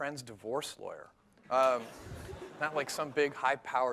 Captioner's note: laughter